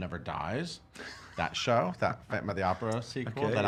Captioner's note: laughing